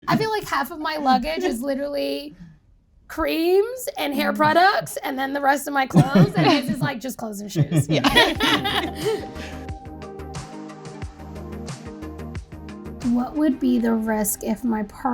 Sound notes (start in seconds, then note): 7.5 people laughing; 9.3 upbeat music